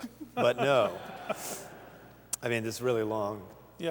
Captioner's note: laughter